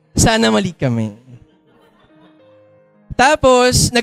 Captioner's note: laughter